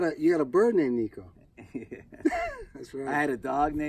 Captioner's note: laughs